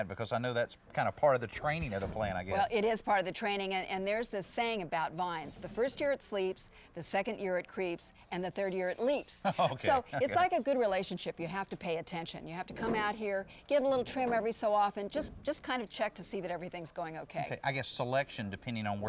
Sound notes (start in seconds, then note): 9.4 laughs